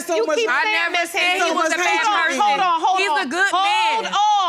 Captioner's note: both arguing